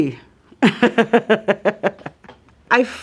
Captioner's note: laughing